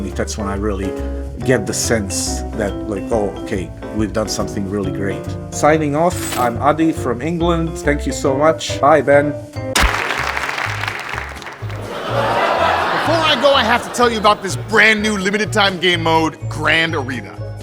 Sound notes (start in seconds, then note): 9.7 audience applauding; 11.9 audience laughing